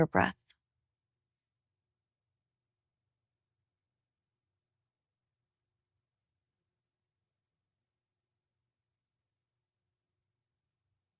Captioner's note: silence